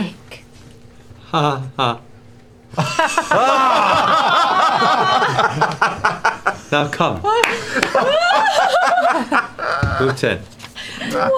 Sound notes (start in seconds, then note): 2.7 chuckles; 2.8 laughter